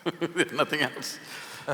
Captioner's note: laughs